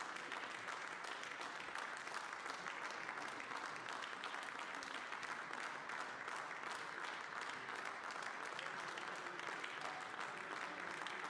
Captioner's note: applause